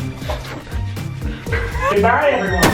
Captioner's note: chuckles